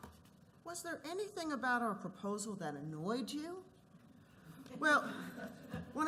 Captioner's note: laughter